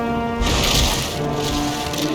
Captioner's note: rwaarw!; crunch!!; rruaar!?